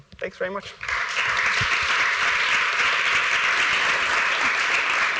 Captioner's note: applause